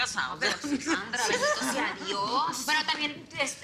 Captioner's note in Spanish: Risas